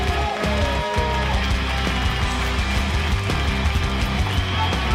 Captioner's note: audience applauds; driving rock music